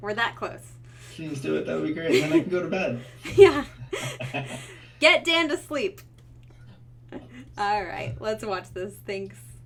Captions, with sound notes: We're that close. - Please do it, that would be great! Then I can go to bed. - Yeah. (laughing) Get Dan to sleep! All right, let's watch this, thanks.